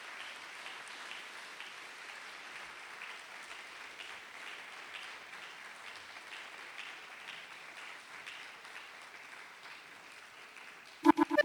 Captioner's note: applause